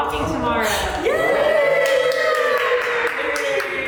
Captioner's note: cast cheering